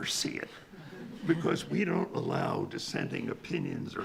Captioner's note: attendees laughing